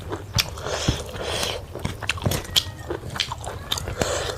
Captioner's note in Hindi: नाक से की जाने वाली आवाज़